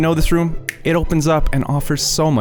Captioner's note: finger snapping